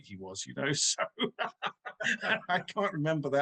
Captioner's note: laughing